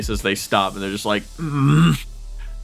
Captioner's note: grumbles